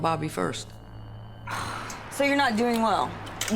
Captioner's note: sigh